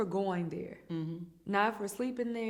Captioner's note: hums in agreement